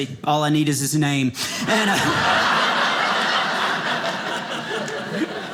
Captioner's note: audience laughing